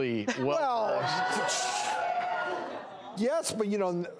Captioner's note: scoffs